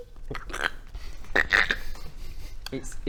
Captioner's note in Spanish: crujido; crrck